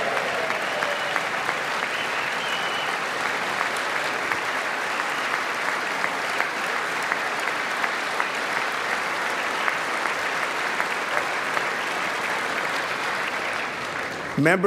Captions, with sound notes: SECOND LADY OF THE UNITED STATES -- [ APPLAUSE ]